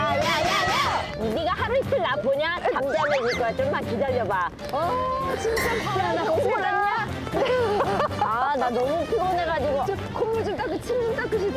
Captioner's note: laughter